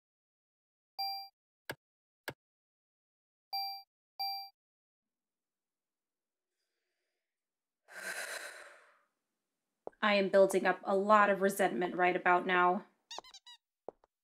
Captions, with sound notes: *Inhaling through my nose and then exhaling through my mouth* I am building up a LOT of resentment right about now.